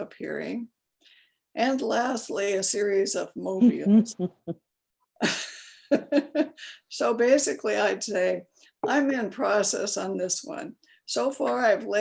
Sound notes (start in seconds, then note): 3.8 laughs